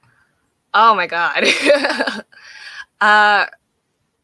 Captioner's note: laughing